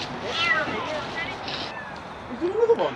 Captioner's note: sound of kitten crying